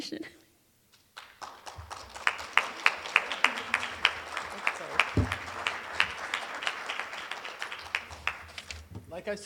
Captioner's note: applause